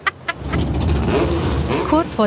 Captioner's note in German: lacht; Motorengeräusche